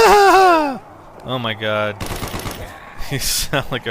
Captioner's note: maniacal laugh